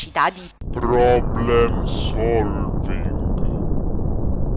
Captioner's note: big-badda-boom